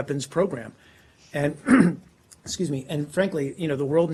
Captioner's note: clearing throat